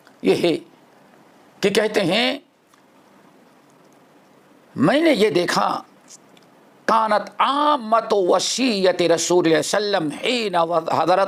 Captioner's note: in Arabic